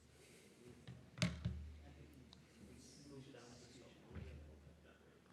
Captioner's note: background chatter